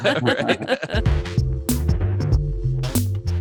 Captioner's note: laughter